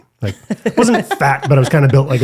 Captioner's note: laughs